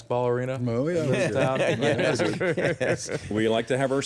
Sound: panelists laughing

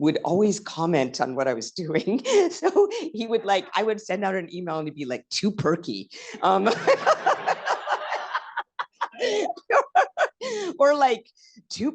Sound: laughter

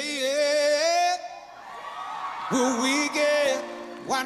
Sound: cheers and applause

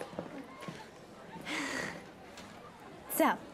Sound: chuckles

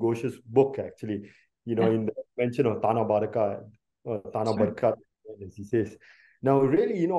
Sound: non-english

